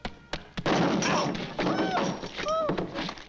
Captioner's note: pole bangs